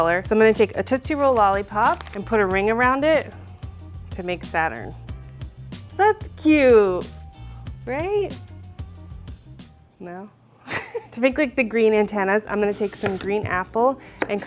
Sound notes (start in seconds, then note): 10.4 laughs